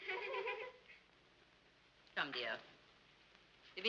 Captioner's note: girls giggling